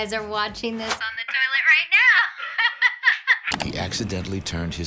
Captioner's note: laughs